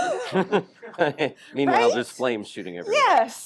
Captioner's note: both Laugh